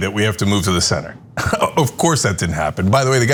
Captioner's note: laugh